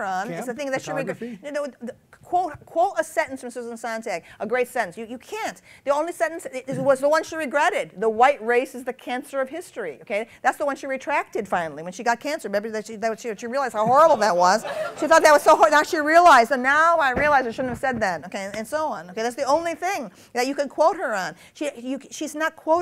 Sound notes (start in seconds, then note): 13.8 laughter